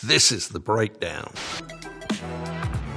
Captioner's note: upbeat music; static hisses